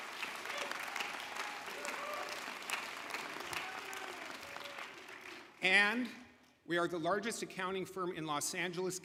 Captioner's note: applause